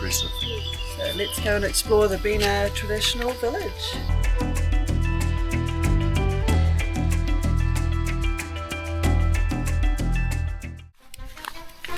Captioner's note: footsteps